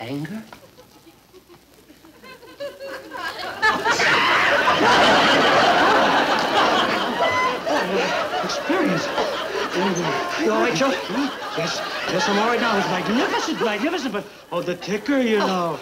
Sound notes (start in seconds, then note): 0.2 audience laughing; 3.4 Harry shrieking; 3.4 audience laughing